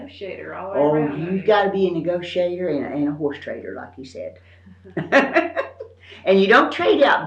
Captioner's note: laughs